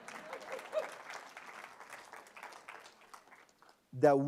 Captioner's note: applause